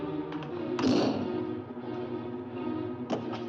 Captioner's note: bang